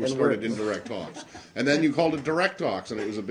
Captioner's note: laughter